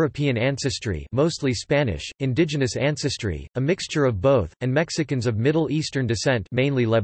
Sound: mostly Spanish

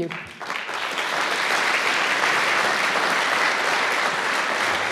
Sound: audience applauds

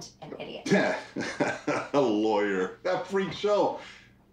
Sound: laughs

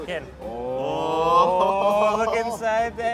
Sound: all cheering

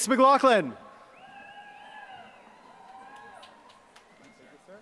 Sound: applause

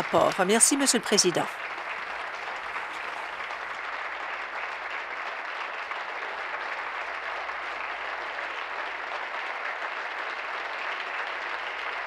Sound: applause

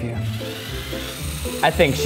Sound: drill whirring

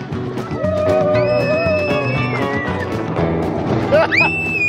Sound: screaming; laughing

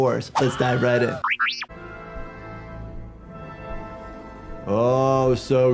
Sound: Wilhelm scream

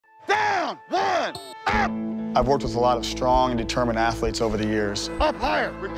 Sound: shouting

